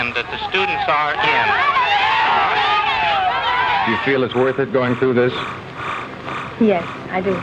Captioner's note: angry yelling from crowd